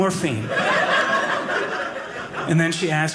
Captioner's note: audience laughing